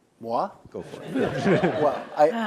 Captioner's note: audience laughs